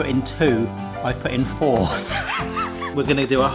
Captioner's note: laughing